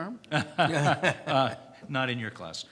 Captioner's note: laughs